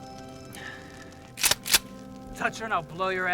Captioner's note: gunshot bangs